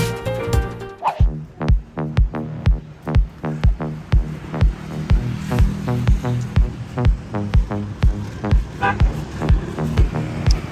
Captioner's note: traffic noise